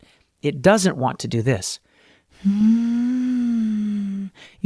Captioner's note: uncompressed humming sound